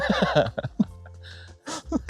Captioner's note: laugh